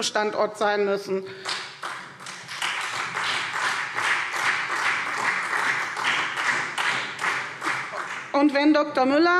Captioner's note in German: Beifall